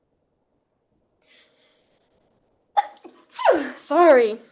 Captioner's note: sneezes